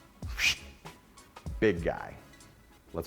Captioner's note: faint whistle